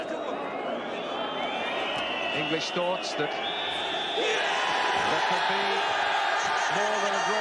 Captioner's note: Toca el silbato